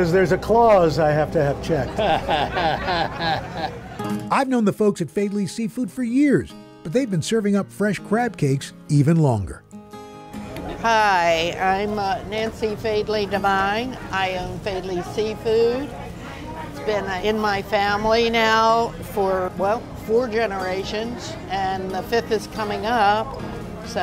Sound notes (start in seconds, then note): 1.8 chuckles